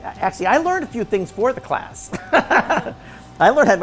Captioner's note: laughs